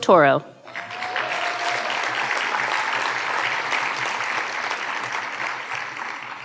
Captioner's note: audience cheering and applauding